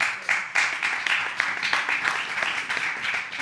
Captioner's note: audience applauds